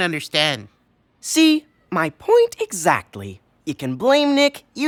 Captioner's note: none